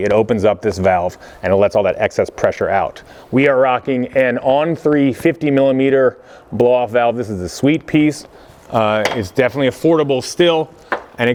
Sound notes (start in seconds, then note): none